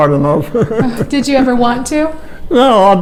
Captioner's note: chuckles